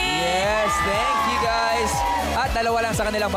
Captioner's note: cheering